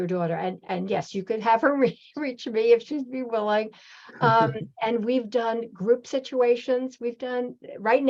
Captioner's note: chuckles